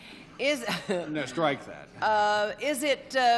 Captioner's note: chuckles